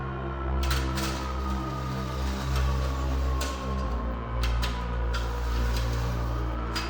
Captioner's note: door opening